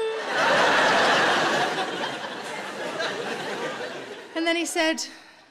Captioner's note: audience laughing